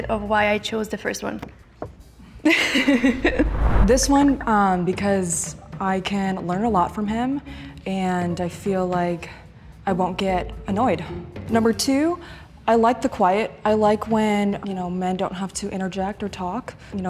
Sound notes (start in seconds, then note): 2.5 laughs